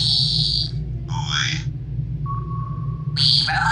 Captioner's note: ping